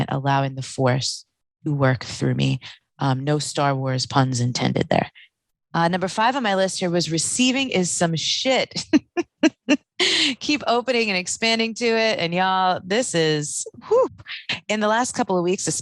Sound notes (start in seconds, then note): 8.8 laughing